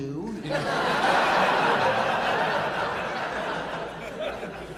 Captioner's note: audience laughing